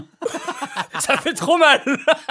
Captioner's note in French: rires